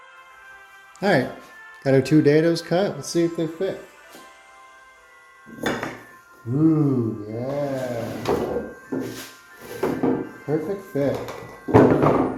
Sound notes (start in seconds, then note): 5.5 wood bangs together; 8.1 wood bangs together; 11.1 wood bangs together